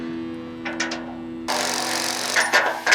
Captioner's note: metals clanking; drilling; metals clanking